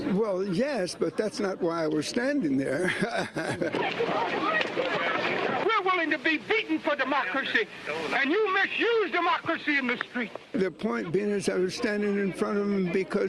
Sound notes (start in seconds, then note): 2.6 laughs